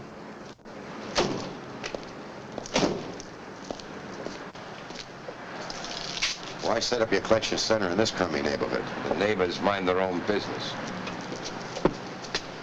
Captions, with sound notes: (car doors slam) - Why set up your collection center in this crummy neighborhood? - The neighbors mind their own business.